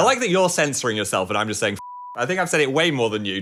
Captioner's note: beep